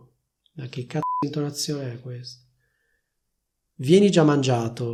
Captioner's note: beep